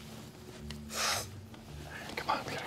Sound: inhales sharply

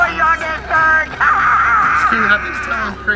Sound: laughing hysterically

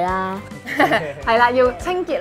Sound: laughing

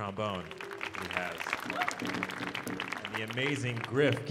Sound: audience applauding

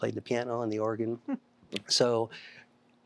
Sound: giggling

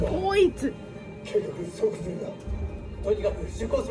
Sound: Akitsu in Japanese

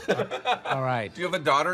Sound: John laughs

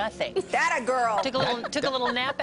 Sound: laughter

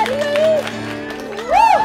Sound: clapping

